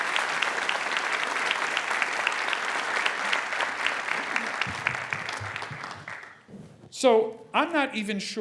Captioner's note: applause